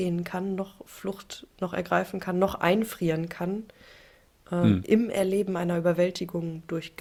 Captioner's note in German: räuspern